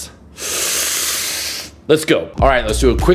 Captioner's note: deep breathing